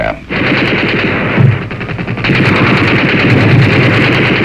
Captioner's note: machine guns firing